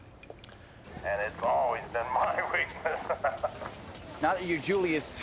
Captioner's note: laughs